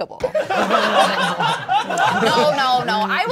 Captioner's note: all laughing